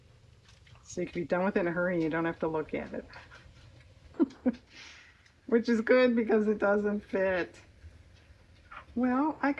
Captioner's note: laughs